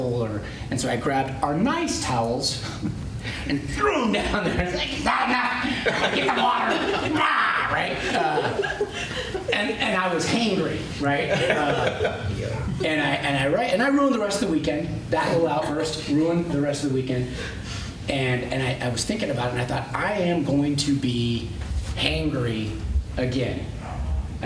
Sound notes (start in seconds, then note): 7.0 growls; 11.2 laughter